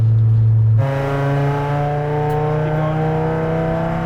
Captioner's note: car engine roaring